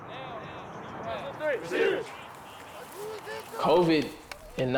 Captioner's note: team huddle chants